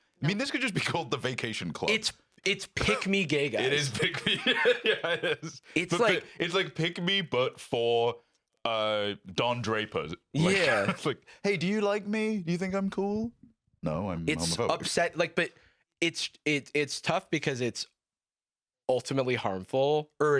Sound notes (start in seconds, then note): 3.6 laughing